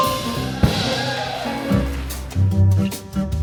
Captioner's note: crowd applauds